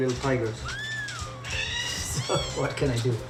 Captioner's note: kitten mews